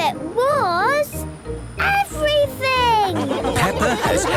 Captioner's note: laughing